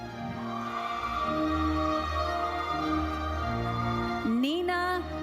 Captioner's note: audience cheering and applauding